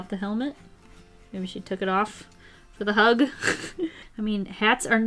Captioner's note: laughs